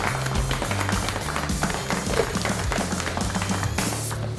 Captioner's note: applause